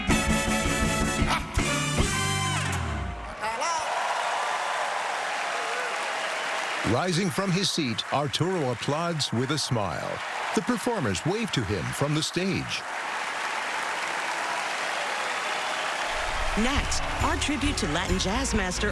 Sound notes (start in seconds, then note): 1.1 exclaims; 1.1 song ends; 4.4 cheering and applause